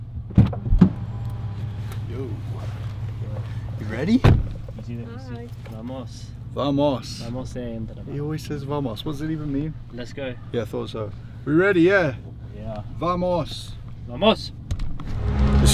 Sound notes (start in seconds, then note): 7.3 speaking foreign language